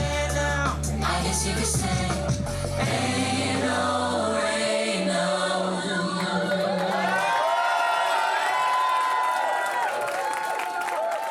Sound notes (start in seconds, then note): 7.8 audience cheering